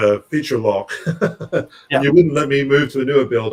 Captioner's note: laughs